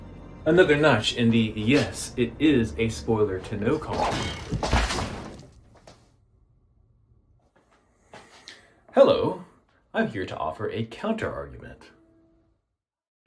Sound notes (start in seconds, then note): 3.8 wham